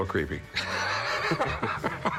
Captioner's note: laughter